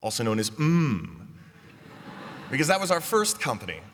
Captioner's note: laughter